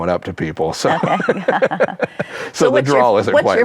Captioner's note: chuckles; laughs